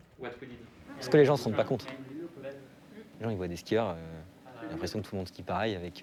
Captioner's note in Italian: parla in francese